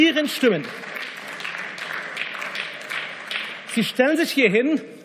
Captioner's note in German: Beifall